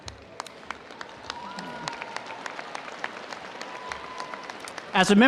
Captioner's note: audience applauding